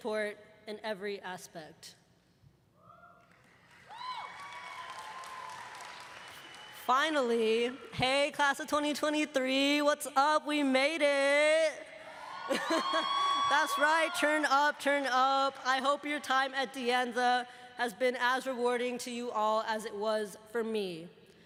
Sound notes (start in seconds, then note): 8.0 applause; 14.5 cheers and applause